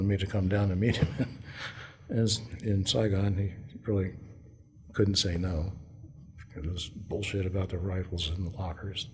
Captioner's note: laughter